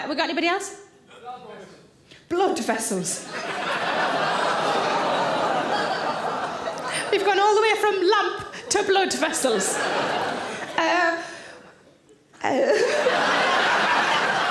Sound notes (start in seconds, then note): 3.3 audience gasps and chuckles; 9.8 audience laughing